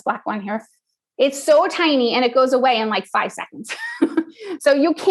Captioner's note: laugh